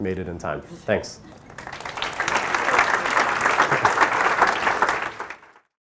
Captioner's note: applause